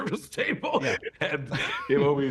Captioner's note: laughs